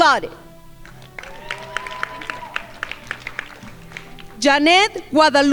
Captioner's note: crowd applauding